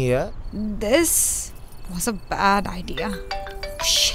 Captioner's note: Phone ringing